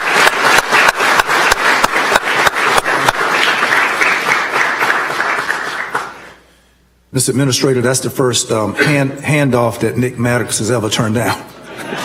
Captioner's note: applause